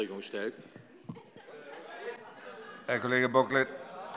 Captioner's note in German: Heiterkeit bei der CDU